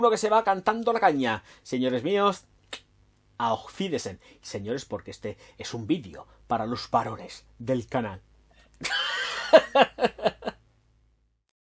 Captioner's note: laughs